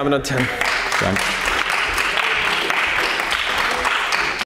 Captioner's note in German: Beifall bei den GRÜNEN